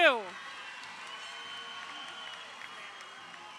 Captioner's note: crowd cheering